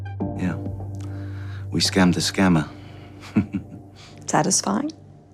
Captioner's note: laughs